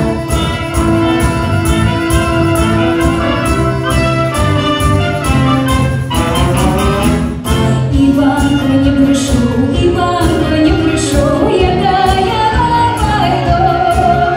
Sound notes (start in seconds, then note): none